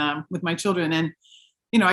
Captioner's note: none